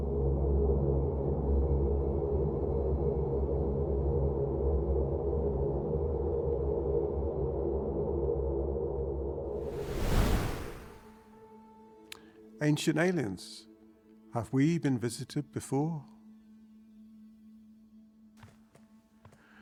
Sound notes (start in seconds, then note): 0.1 ominous music; 9.5 wind whooshing